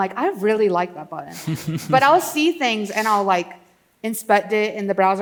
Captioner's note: laughs